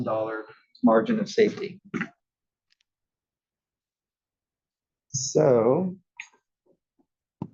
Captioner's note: cough